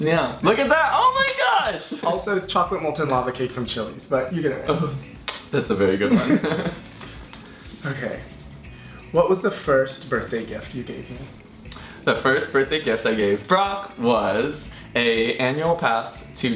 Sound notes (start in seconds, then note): 6.0 chuckles